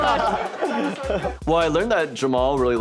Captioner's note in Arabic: يضحك الجميع